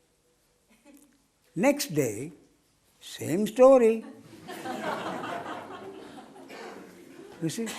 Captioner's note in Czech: smích